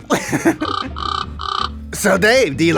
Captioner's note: bird laughing